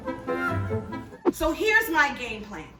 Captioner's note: whimsical music; whoosh